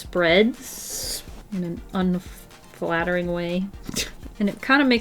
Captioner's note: laughs